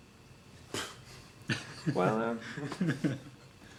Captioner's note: laughing